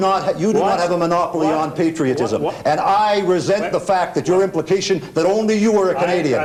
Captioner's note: continued, irregular stammering